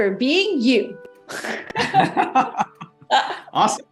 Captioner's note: both laughing